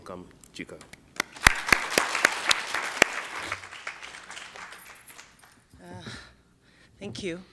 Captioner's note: applause